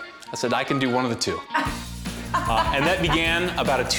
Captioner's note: laughter